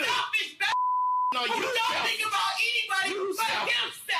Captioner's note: beep